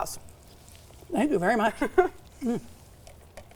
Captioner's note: laughs